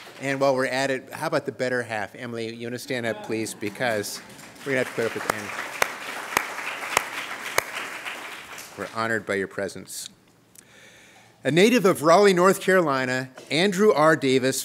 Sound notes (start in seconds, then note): 5.4 applause